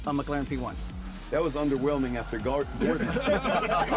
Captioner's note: laughter